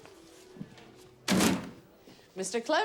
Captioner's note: papers thud